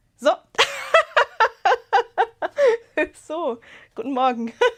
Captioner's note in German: Gelächter